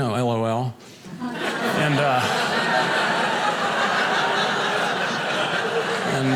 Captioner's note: audience laughing